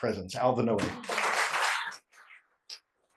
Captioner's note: applause